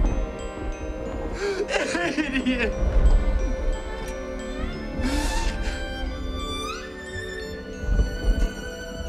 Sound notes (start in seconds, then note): 1.3 sobs